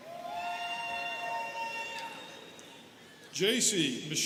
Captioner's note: students cheering